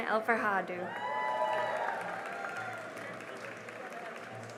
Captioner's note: cheering and applause